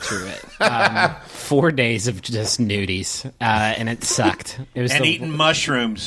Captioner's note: laughter